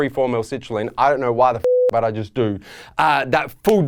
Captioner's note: beeping